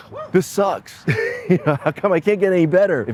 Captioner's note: laughs